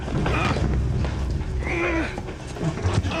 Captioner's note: grunting